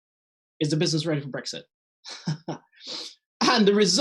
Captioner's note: chuckles